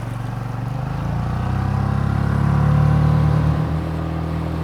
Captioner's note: boat engine droning